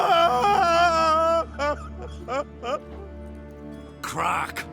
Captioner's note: loud wail; sobbing